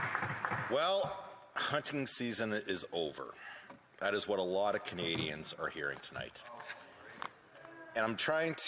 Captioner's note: applause